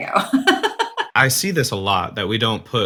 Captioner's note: laughing